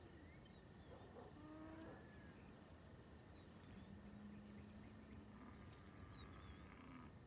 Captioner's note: dog barking; cows lowing